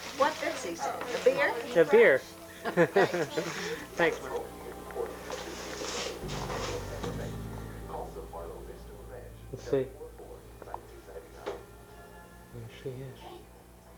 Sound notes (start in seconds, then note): 2.5 laughing